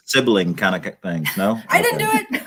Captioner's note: laughter